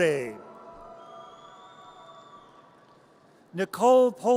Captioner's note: audience cheers